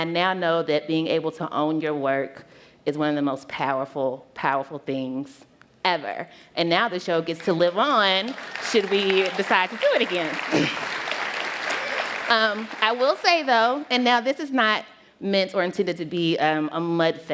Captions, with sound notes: And I now know that being able to own your work is one of the most powerful, powerful things ever. And now the show gets to live on [applause] should we decide to do it again! I will say, though, and now this is not meant, or intended to be, a mud fest.